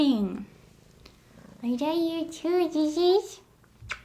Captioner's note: smooch